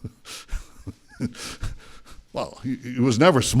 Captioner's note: laughter